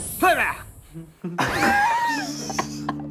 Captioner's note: laughing